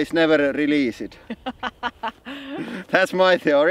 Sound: laughs

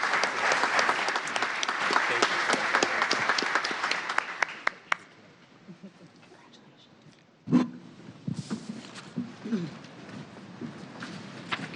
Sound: applause

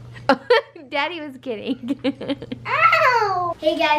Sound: laughs

